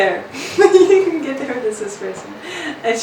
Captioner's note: laughs